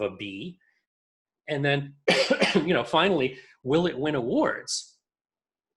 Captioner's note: coughs